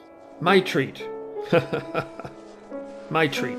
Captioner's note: laugh